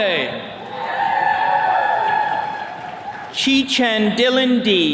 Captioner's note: attendees cheering